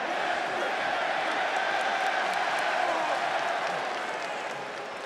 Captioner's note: audience chanting